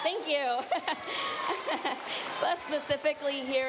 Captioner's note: cheers, applause